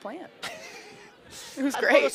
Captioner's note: chuckles